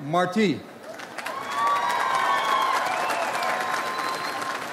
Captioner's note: audience applauds